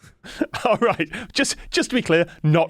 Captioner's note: laughs